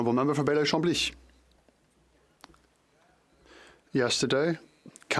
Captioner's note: speaking French